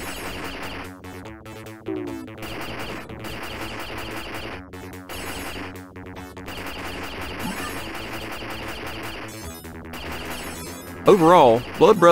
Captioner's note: game sounds